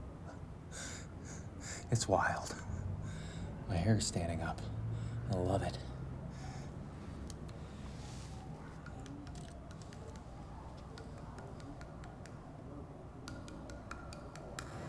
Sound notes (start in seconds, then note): 0.7 chuckles; 7.7 siren wailing; 9.3 camera clicking; 10.6 soft tapping